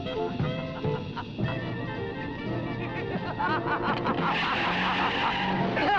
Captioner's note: Elizabeth laughing; brakes screeching